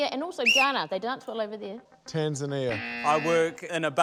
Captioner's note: blows whistle; buzz!